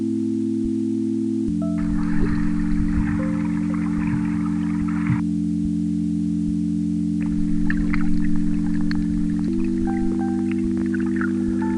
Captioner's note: wind blowing